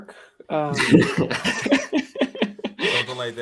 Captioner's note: laughter